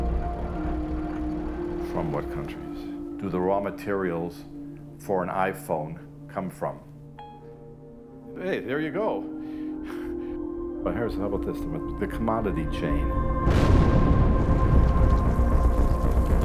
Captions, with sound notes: From what countries do the raw materials for an iPhone come from? [phone beeps] Hey there you go. Oh here, how about this, the commodity chain. [explosion booms]